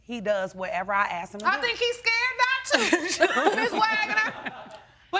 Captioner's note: laughing